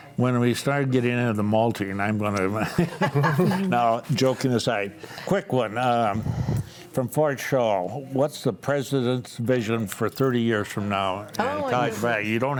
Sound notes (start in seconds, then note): 2.6 panelists laughing; 2.6 laughs